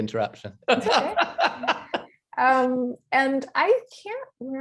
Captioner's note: laughing heartily